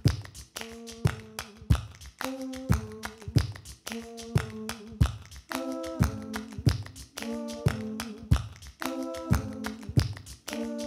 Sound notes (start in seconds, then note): 0.9 beatboxing